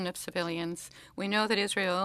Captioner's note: speaking French